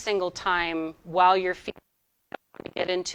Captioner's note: audio distorting